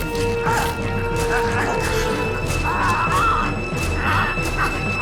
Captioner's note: flesh squishing